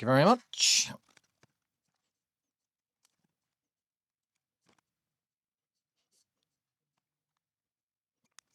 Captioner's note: blank Audio